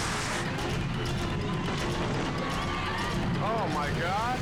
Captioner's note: bystanders screaming